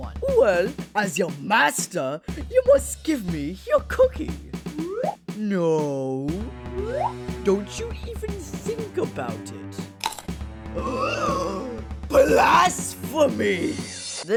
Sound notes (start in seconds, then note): 4.7 whoop; 6.6 whoop; 10.0 crunchity munchity